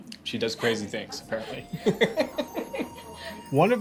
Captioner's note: laughs